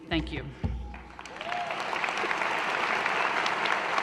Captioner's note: applause